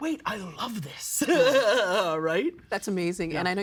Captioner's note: laughing